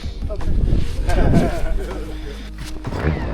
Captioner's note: laughter